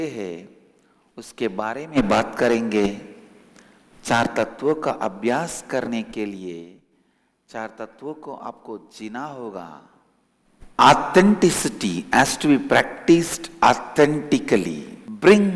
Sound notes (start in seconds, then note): 10.0 hindi